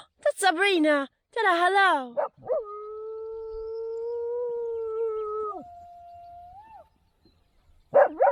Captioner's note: Molly the dog is howling her little heart out